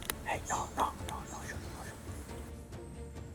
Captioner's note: whispering